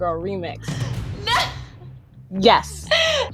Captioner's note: laughing